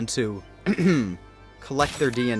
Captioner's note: ahem